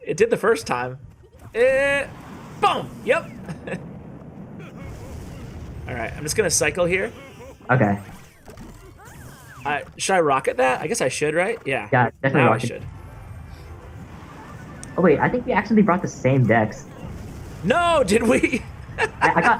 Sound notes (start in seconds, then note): 4.6 crying emote sound; 18.0 laughs